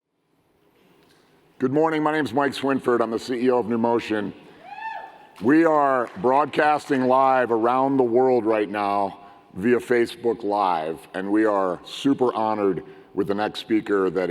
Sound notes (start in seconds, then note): 4.6 whooping